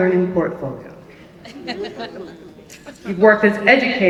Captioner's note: laughter